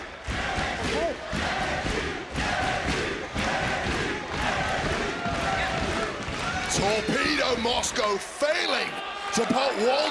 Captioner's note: crowd chants "nxt"